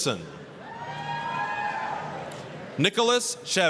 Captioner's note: applause, cheering